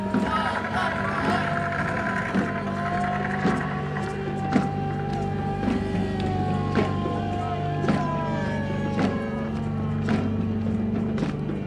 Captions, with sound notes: No blood for oil! [GUN FIRE SOUND RECORDING PLAYS] [SIREN WAILS] [DRUMS BEATING]